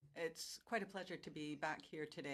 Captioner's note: speaking French